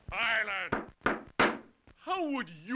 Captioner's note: gavel banging